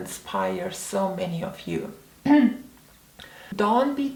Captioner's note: clears throat